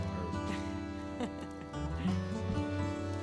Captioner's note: Emily laughs